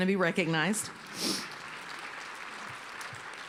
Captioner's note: applause